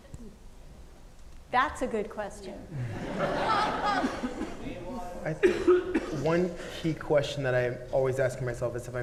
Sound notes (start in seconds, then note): 2.7 audience laughing